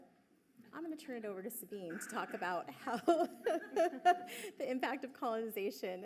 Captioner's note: laughs